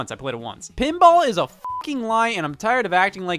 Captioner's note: beep